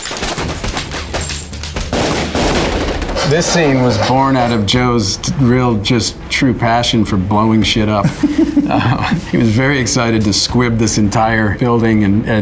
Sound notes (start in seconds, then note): 1.8 gun firing; 8.0 Ben laughs